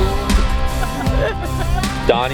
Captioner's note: laughing uncontrollably